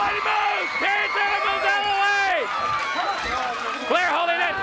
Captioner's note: crowd cheering